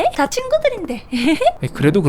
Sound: giggles

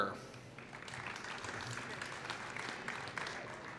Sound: applause

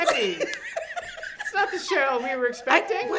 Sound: friends laughs

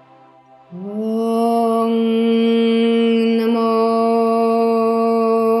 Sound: chanting in foreign language

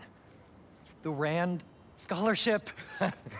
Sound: laugh

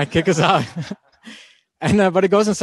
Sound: laughing

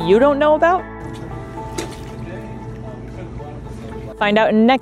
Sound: water splashing noise; background chatter; background music

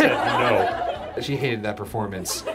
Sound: audience laughs

